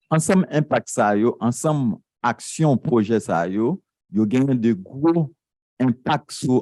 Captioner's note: speaking a foreign language